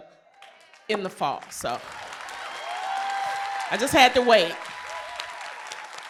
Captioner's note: applause